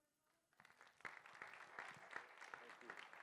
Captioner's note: applause